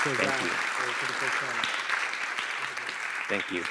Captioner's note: applause